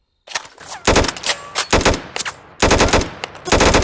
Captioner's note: gunfire